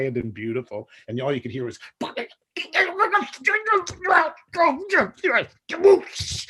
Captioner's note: mimics clamoring